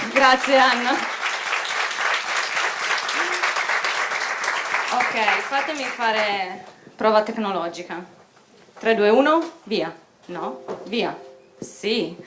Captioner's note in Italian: Applausi